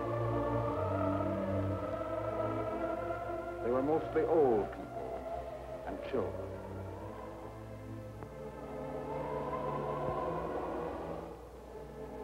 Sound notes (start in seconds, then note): none